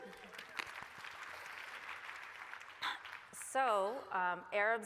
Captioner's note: applause